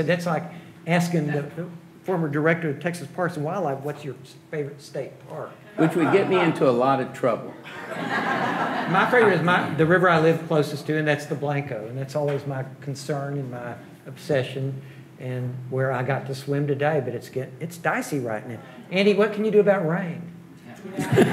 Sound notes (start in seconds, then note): 7.6 audience laughing